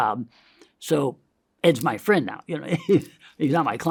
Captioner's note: laughs